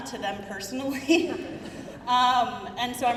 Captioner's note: crowd murmuring